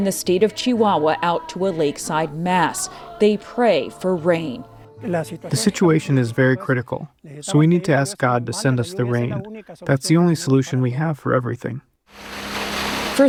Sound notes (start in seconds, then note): 6.0 through translator